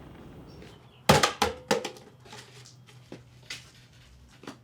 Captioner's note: newspaper thuds